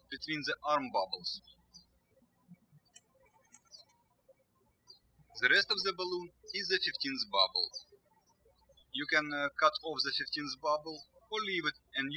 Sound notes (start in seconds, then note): 2.4 birds chirping